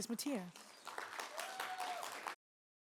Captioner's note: applause